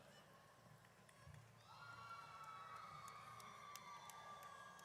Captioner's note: audience cheers